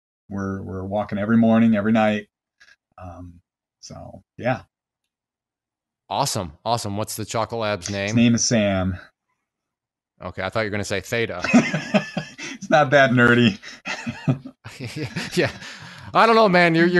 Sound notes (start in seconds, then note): 11.3 laughs